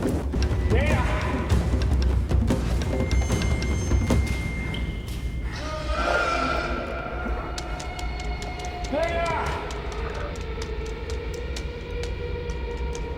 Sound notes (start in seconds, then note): 5.6 creature growls; 7.4 footsteps